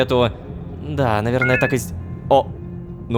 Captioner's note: notification